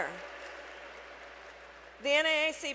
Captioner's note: applause